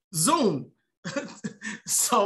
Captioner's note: laughs